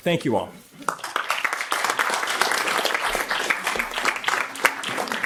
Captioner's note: audience applauds